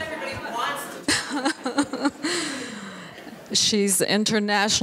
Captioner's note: laughing